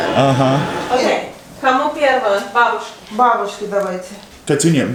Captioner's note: speaks Russian